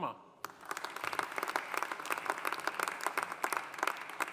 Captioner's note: audience applauding